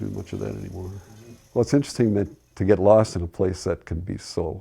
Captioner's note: laughs